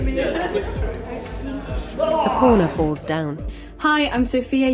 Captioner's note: cries out